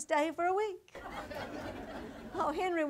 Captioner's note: audience laughter